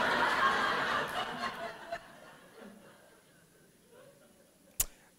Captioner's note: laughter